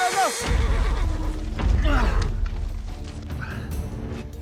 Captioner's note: grunting